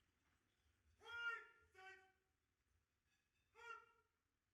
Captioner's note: officer calling out commands